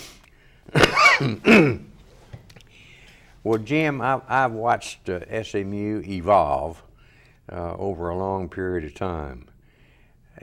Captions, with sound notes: - (coughs loudly) Well, Jim, I've watched SMU evolve over a long period of time